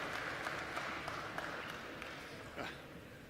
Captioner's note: applause